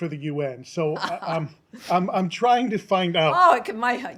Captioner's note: laughter